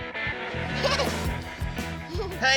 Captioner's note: laughing